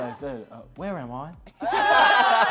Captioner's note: english accent; laughter